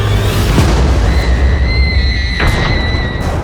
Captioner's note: thunder crashes; Cora screams; thunder rumbling